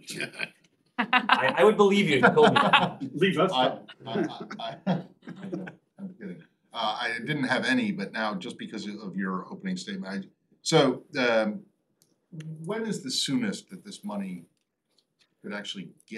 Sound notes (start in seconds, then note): 4.0 laughter